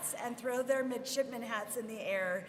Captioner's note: none